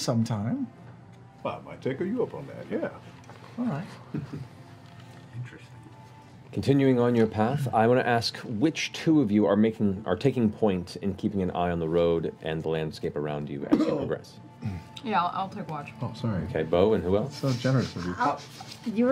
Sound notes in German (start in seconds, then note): 13.6 gekünstelter Husten